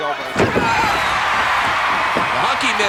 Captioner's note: audience cheering